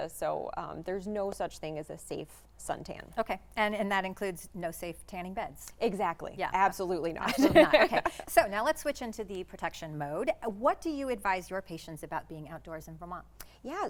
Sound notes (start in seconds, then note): 7.2 giggling